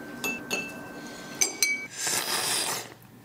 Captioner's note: slurping